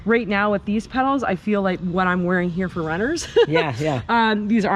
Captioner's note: laughs